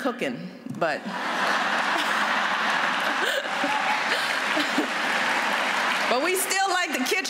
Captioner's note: laughter and applause